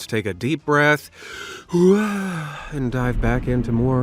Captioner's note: inhales deeply